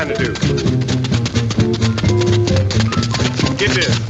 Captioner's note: tapping